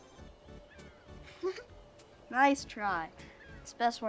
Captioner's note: chuckles